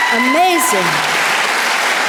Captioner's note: audience applause